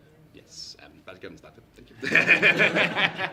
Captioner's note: laughter